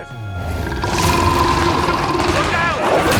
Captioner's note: Steenium roars